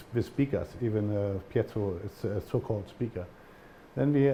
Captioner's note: german